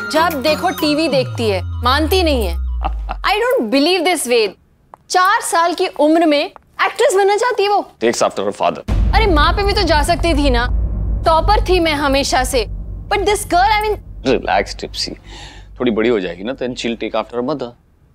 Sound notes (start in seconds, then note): 2.8 Ved laughs